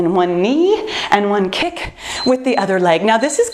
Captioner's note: timer beeps